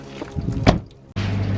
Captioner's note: loud hums from the refrigerators; door shuts